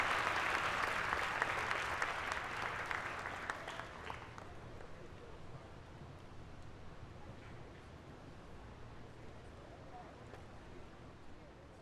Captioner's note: applause